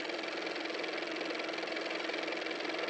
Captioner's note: car motor